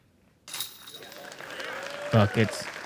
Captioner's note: applause